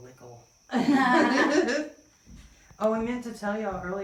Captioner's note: laughter